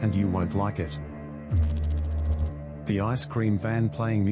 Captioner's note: electrical noise